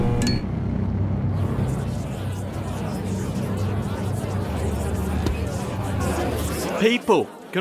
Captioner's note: everyone bantering